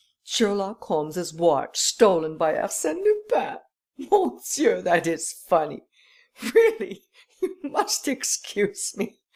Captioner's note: laughter